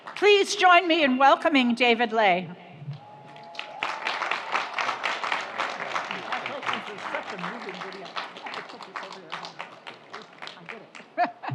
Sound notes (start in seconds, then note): 3.2 audience applauds; 7.9 laughs